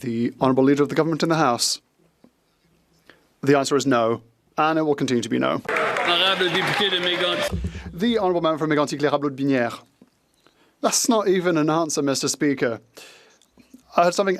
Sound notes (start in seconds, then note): 1.0 some Applause